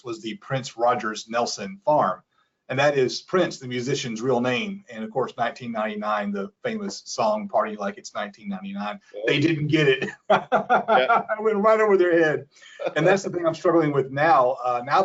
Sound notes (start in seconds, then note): 9.2 laughs